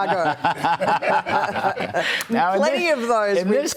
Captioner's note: laughter